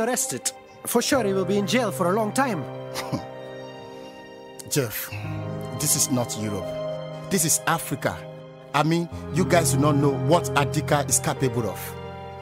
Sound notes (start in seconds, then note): 2.9 chuckles